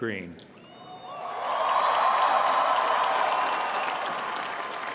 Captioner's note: cheering